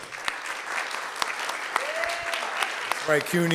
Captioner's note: audience clapping